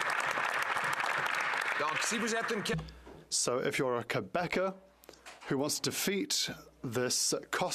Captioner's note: applause